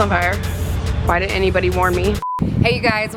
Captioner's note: beep